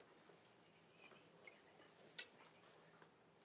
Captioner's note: speaks faintly